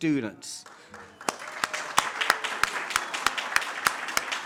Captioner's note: audience claps